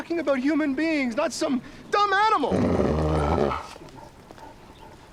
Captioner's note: dog growls